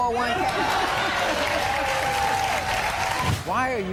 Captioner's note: audience applauding